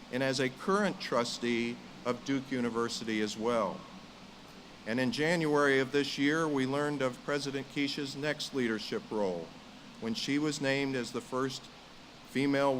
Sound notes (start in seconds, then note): none